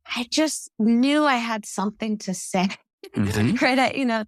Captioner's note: laugh